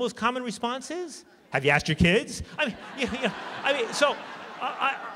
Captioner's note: laughter